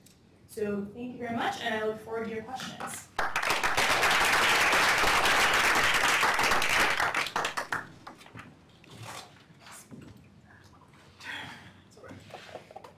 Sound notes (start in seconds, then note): 3.1 applause